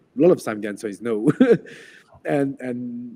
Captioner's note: laughs